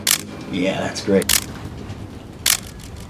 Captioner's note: camera clicking